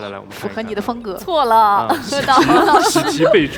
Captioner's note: laughs